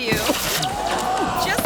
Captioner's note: thuds